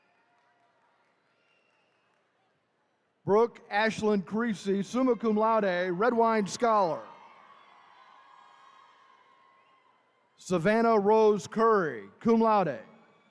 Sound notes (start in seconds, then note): 7.3 attendees cheering